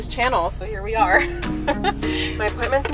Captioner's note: laughs